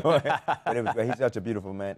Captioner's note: laughter